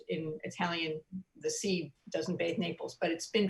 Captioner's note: speaking in foreign language